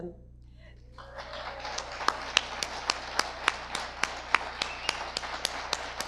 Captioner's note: audience applause